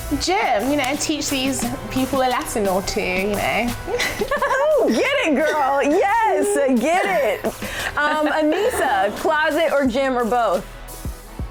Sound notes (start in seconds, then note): 3.8 laughing